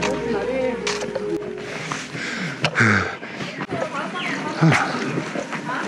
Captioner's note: heavy panting